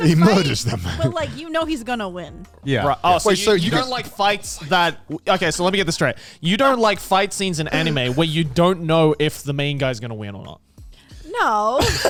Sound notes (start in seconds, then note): 7.7 hosts laugh